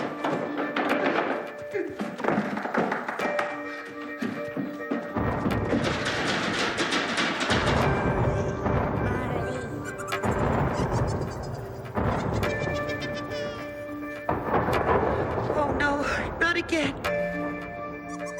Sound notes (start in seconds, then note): 0.3 wood rattling over tense electronic music; 5.3 thunder rumbling; 6.1 door rattling; 9.8 eerie menacing laughter; 17.0 thunder rumbling